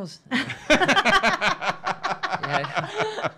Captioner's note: laughing